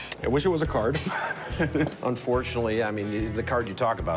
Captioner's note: laughs